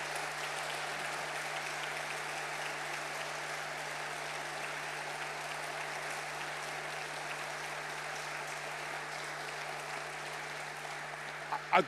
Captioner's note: attendees applauding